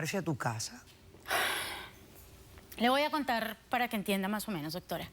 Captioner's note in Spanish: exhala